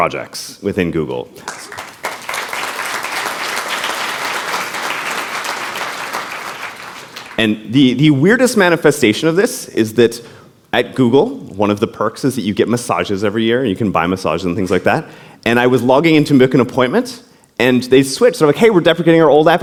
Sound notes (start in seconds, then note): 5.3 applause